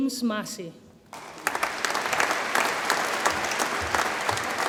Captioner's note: audience applauds